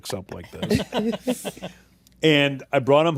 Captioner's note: laughter